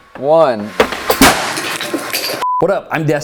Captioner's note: bat fires